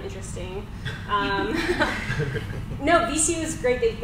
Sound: panel laughs

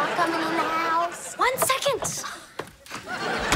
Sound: sighs

